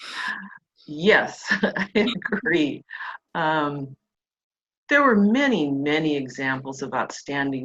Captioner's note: laughs